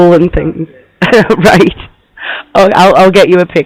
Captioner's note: laughs